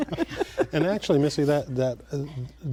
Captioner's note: laughter